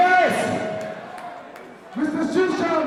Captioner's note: crowd cheering